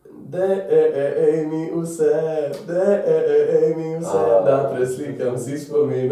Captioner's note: in Slovenian